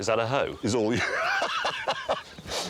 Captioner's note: Clarkson laughs